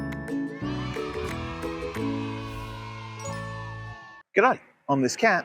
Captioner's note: soft music; kids shouting